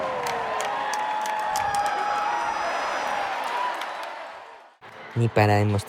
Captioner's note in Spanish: ovación